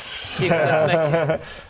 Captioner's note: worried laughs